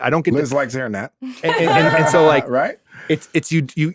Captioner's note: laughing